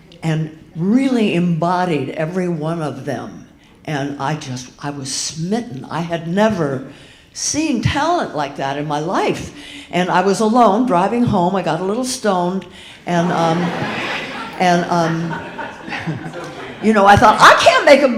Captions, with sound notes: and really embodied every one of them. And I just, I was smitten. I had never seen talent like that in my life. And I was alone, driving home. I got a little stoned. (audience laughing) I thought, I can't make